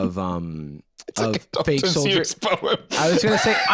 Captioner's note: laughing